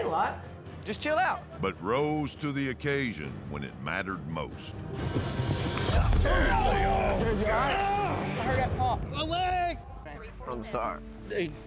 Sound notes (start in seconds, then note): 5.0 thud, groan